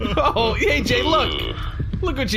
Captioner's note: crying